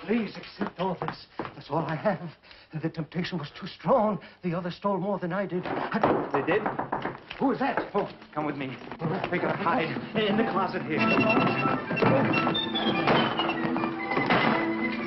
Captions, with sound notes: Please accept all this, it's all I have. The temptation was too strong. The others stole more than I did. (knocking) - They did? - Who is that? - Come with me, you have to hide. Get in the closet here. (exciting orchestral music)